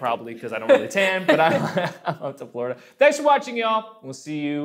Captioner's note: laughing